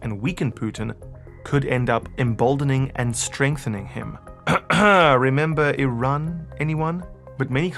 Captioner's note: cough… Cough…